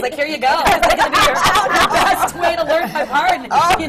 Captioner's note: laughter